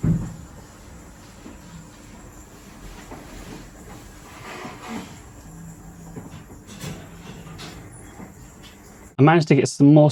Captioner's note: coughing, beeping, hissing, snoring